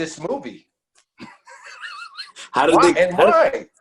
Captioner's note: laughs